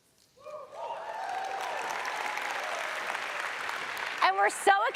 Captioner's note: audience applauds